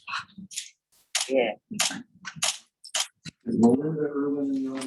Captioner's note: camera clicking